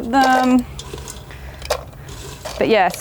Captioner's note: chips clattering